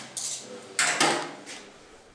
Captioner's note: clattering